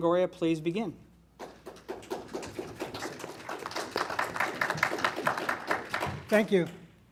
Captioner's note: applause